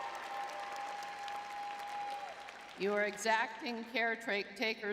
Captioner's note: crowd cheering